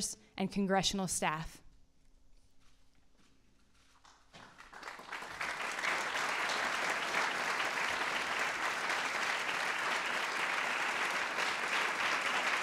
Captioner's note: applause